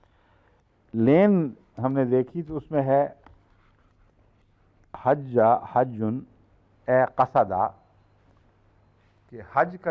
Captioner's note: Arabic